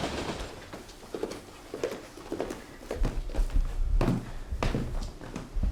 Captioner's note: subway tracks clacking; footsteps pattering